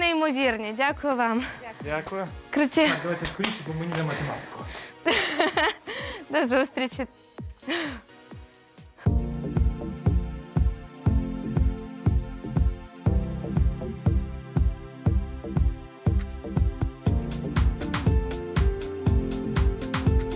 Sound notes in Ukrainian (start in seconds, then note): 3.2 плескання в долоні